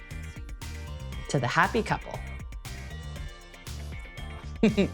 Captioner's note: chuckles